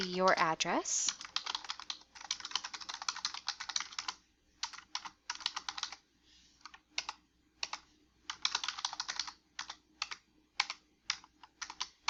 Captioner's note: typing on keyboard